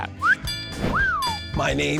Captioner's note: whistles